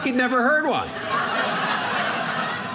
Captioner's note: audience laughing